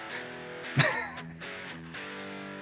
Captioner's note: laughs